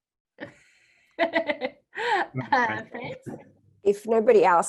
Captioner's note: laughs